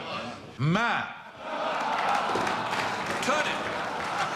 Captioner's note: laughter